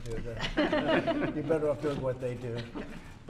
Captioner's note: laughter